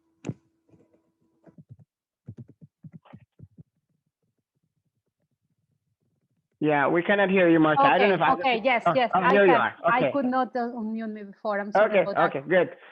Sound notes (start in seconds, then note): 2.3 keyboard typing